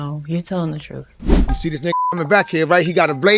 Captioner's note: beep